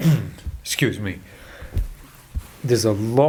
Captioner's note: coughs